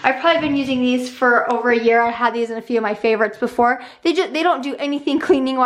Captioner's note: none